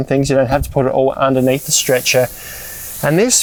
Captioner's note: fabric hissing